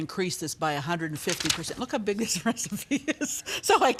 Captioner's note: laughs